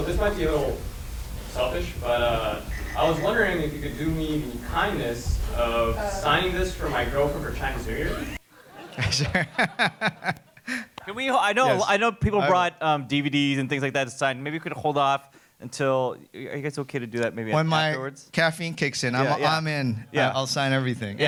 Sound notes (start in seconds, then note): 8.6 laughs